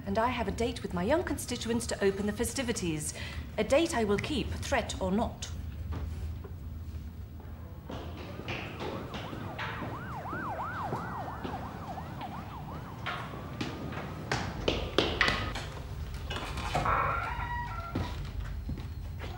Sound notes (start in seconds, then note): 9.7 sirens wailing in distance; 13.5 footsteps thudding; 16.0 door creaking